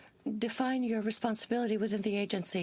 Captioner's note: speaking French